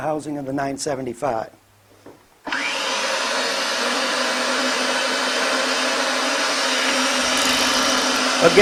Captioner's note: Roll Groover Machine Noise